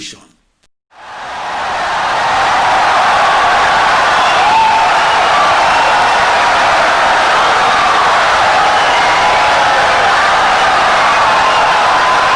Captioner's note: wild applause and cheering for 17 seconds